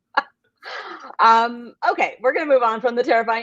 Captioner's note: laughs